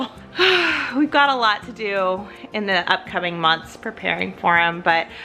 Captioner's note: sighs